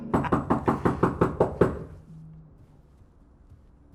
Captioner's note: knocks on door